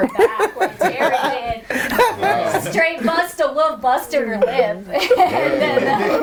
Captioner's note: overlapping chatter and laughter